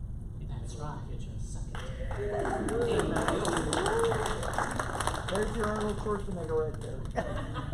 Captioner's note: applause